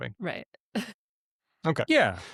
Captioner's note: chuckles